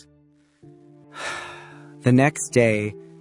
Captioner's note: sigh